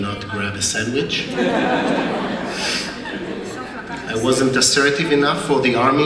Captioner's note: laugh